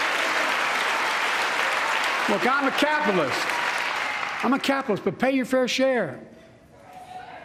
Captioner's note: cheers and applause